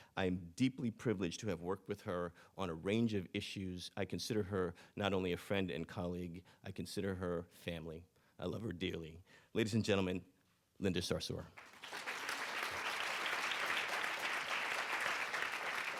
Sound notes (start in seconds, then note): 11.6 audience applauding